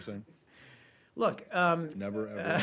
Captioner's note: laughter